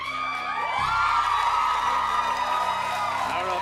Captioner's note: cheers and applause